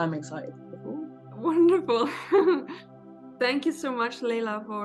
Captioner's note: laughs